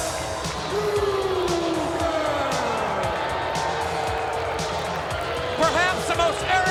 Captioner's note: crowd boos